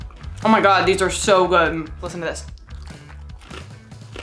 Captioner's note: crunch